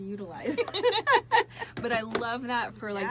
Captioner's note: both laugh